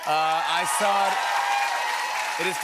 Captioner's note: cheering and applause